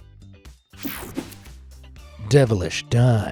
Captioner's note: screen whooshing